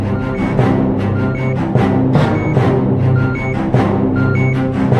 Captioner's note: end title music; beeping